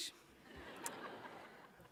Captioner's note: laughter